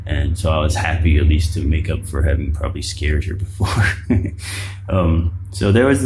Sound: laughs

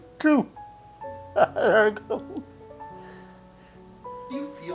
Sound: laughs

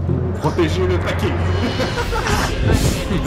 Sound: laughter

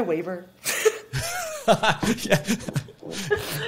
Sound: chuckles

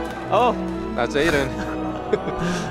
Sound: chuckles; chuckling

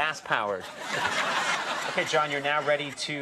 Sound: audience laughs

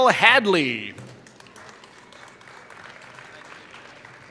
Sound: applause

